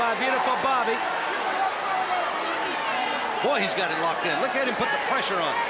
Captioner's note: applause